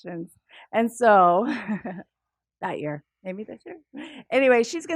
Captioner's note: laugh